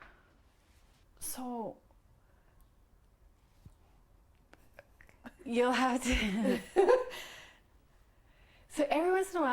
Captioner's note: laughs